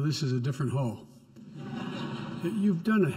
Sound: laughter

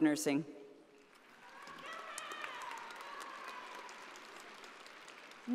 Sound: audience applauding

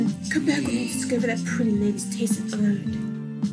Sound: cough

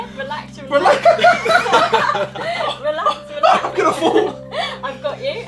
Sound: group laughing

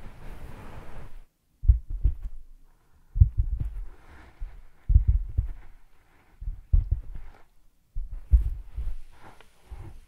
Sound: tapping with fingers

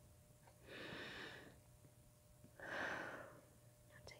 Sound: breathes noisily

